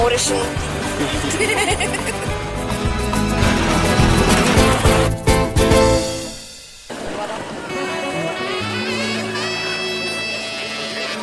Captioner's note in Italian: Applauso